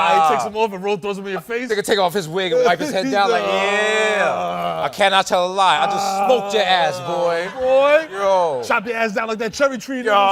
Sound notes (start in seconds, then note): none